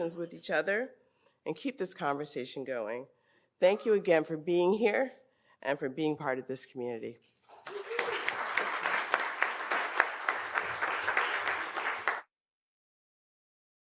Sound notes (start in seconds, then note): 7.5 audience applauds